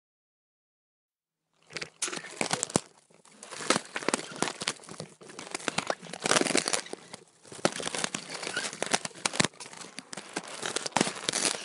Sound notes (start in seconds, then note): 0.0 sound of crunching and scraping